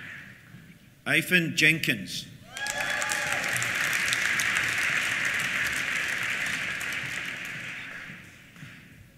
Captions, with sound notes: Ifan Jenkins. (CHEERS) (APPLAUSE)